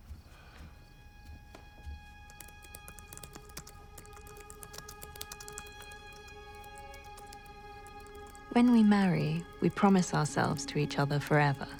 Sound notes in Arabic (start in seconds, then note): 1.7 تشغيل موسيقى مخيفة; 5.4 تستمر الكتابة